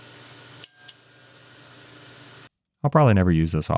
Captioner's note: metal clinking